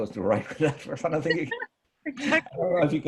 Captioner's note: chuckles